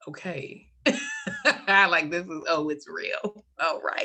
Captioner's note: laughs